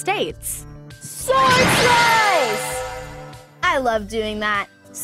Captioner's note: sword slashing